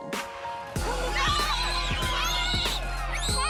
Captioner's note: children screaming